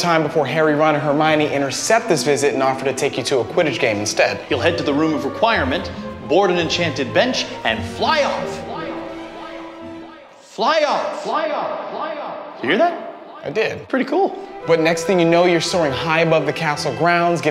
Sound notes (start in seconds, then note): 8.7 echoing